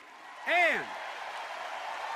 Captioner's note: applause